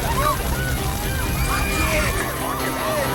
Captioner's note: screaming